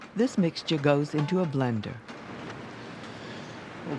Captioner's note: voiceover